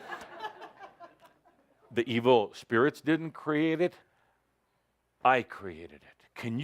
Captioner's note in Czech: smích